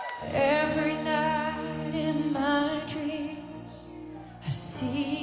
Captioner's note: cheers and Applause